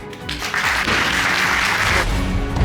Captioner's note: audience applauding